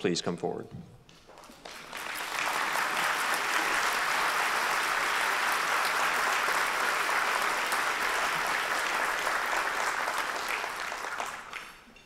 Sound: applause

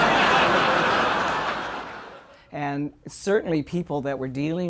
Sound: audience Laughter

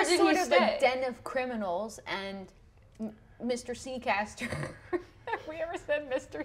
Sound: laughs

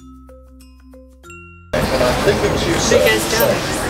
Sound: busy Chatter

